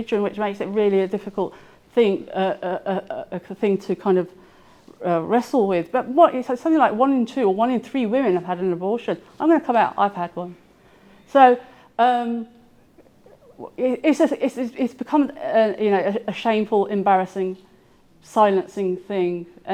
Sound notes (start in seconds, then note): none